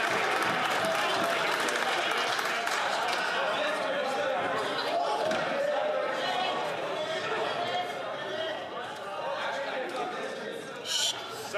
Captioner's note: some Applause